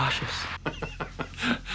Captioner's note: laughs